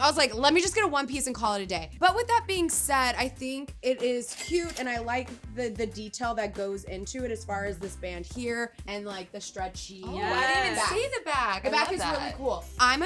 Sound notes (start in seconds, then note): 4.3 cash register chiming